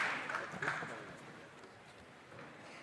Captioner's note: applause